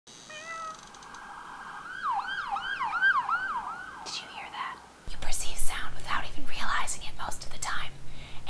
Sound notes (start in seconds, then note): 0.3 cat meowing, siren wailing; 3.7 whispering